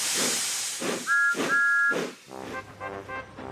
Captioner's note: toot toot